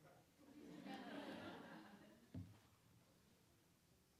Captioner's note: audience laughing